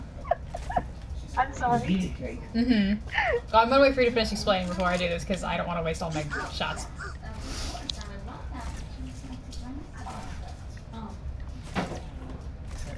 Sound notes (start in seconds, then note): 0.1 laughter